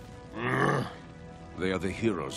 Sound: grunting

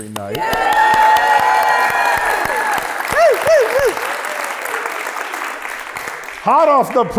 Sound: applause

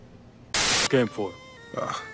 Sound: static

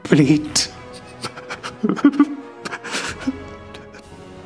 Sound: sobs

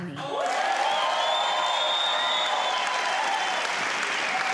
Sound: crowd cheering

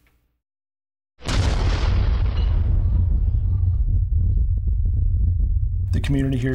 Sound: sound of explosion

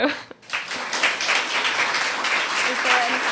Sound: applause

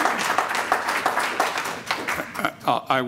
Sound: applause

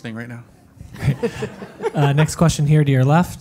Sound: audience laugh

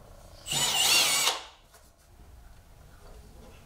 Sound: tool hammering; drill whirring

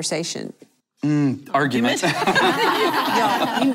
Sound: laughter

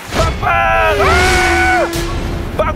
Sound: zoom~

